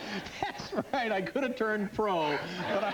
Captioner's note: laughter; laughs